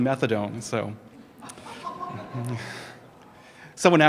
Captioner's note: laughter